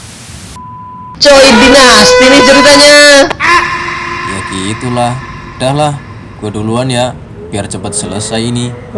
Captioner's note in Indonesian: berteriak